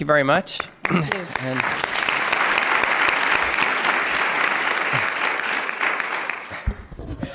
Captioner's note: applause